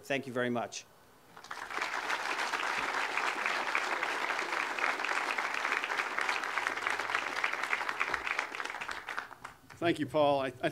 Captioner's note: audience applause